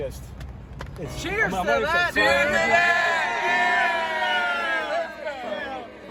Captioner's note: shouting